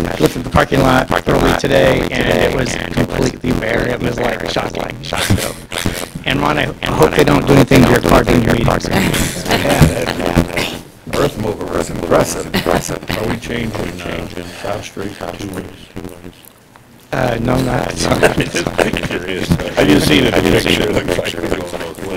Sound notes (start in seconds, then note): 8.9 laughter; 18.0 laughter